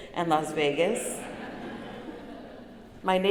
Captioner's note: laughter